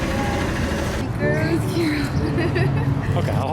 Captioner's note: laughter